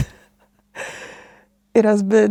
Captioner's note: laughs